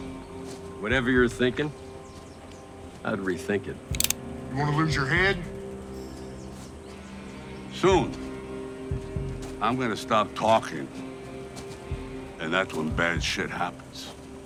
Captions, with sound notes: - Whatever you're thinkin', I'd rethink it. (gun cocking) - You wanna lose your head? - Soon, I'm gonna stop talking, and that's when bad shit happens.